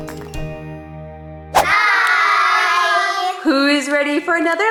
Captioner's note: upbeat music; air whooshing